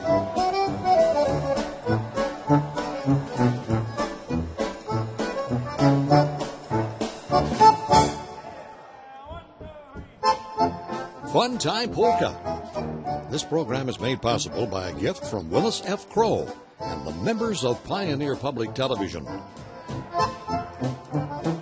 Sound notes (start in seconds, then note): 0.0 lively polka; 13.0 voiceover